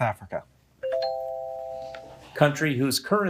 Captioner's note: bell ringing